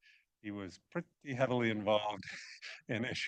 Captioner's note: laughs